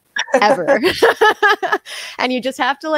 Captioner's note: both laughing